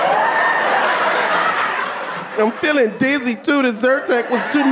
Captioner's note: audience laughing